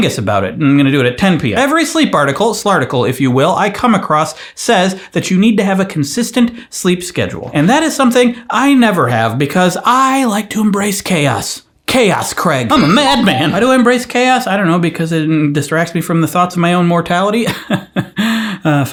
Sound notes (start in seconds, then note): 13.1 cuckoo clock chiming; 17.5 laughs